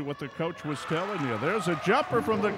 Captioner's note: cheering